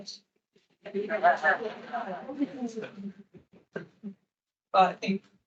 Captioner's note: attendees laughing